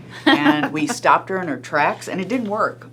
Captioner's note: laughing